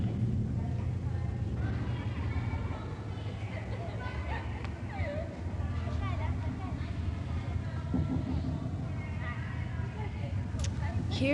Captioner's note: children's Voices in Echo